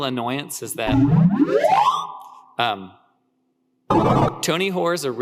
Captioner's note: ascending electronic beeping